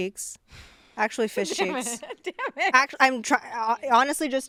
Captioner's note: laughs